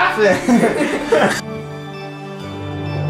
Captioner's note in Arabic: يضحك; موسيقى غريبة الأطوار